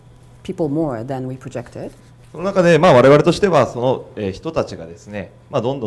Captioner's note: speaking foreign language